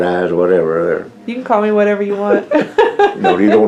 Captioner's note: laughter